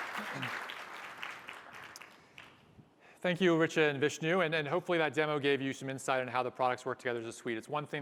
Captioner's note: applause